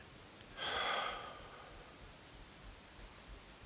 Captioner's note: sighs